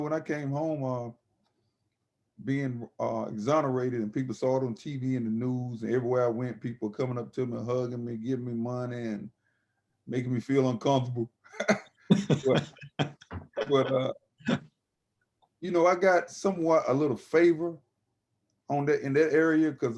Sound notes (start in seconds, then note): 12.1 laughing